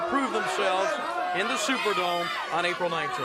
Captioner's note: crowd chatter